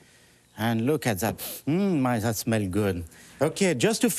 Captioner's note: sniffs